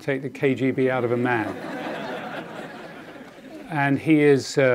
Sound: audience laughing

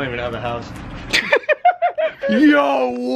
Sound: Logan laughs

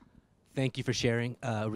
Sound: voiceover

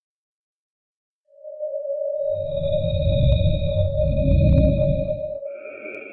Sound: electronic whirring

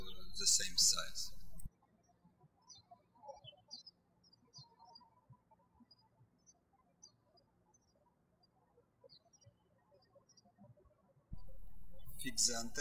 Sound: birds chirping

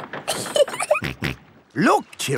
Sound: giggling; snorts

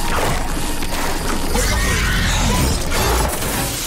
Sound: screeching

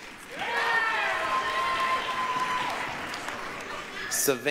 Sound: applause, cheering

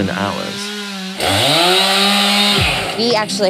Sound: chainsaw buzzing

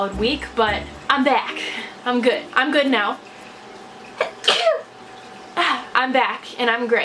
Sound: sneezes

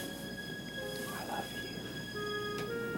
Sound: whisper

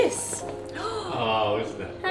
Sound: mom gasping

